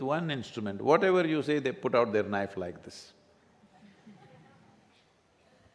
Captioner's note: few laugh